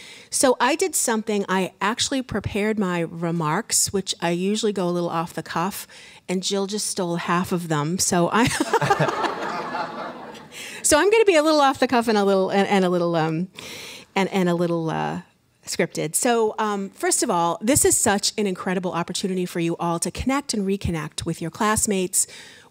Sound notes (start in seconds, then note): 8.4 laughter